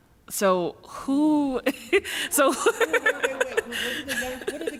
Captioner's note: laughs